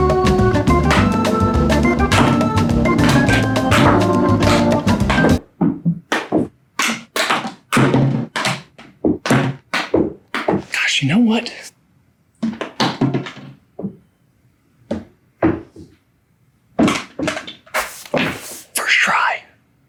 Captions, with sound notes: (loud thumping) Gosh you know what. First try.